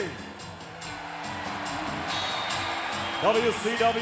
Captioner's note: audience cheering